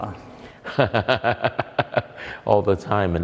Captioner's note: laughter